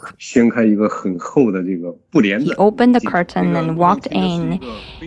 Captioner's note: speaking Mandarin Chinese